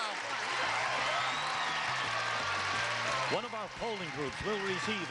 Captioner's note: applause